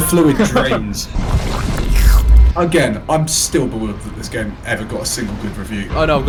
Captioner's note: slurps